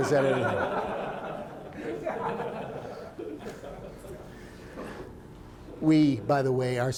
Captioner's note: laughter